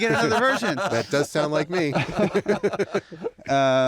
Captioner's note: laughter